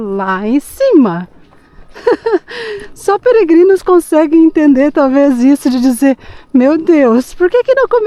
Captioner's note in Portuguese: risadas